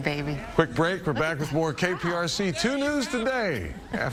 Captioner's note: laughter